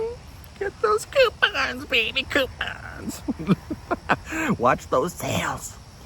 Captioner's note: chuckles